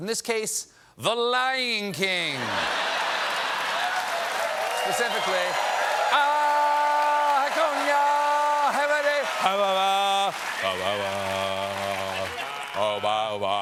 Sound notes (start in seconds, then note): 2.3 laughter; 2.4 cheers and applause; 11.7 laughter; 12.6 singing